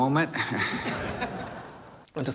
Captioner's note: laughter